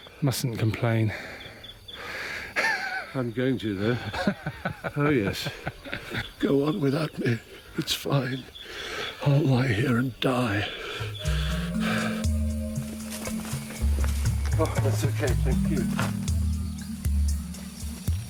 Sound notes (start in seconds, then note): 3.9 laughs; 11.0 mystical music